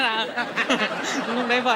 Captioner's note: laughing